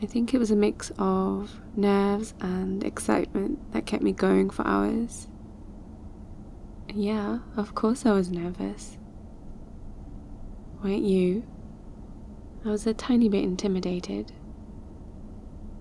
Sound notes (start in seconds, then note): none